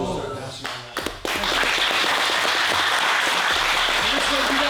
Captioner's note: applause